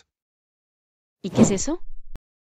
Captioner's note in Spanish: FX - Whoosh - 03